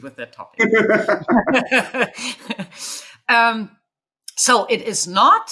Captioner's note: chuckling